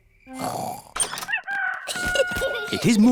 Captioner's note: both snoring; rooster crowing